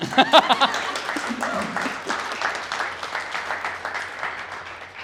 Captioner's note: laughter and applause